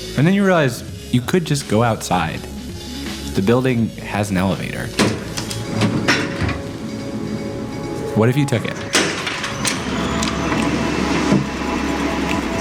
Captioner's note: elevator noise